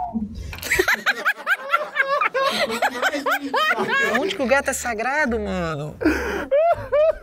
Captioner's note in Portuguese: risadas